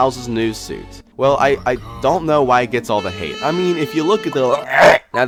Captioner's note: gags